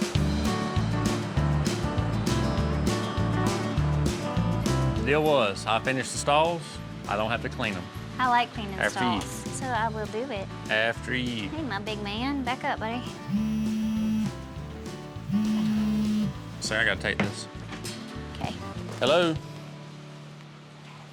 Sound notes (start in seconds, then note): 13.6 cody's phone beeping/vibrating